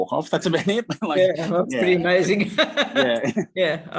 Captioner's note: laughs